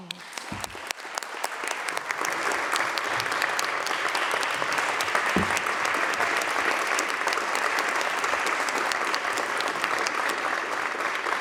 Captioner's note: applause